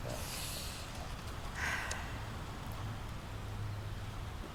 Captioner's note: Laura sighs